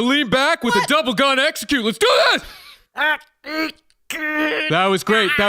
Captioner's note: excited; choked